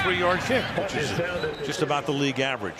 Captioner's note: pa announcement